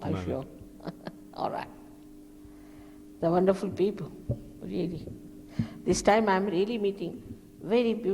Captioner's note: shri mataji laughs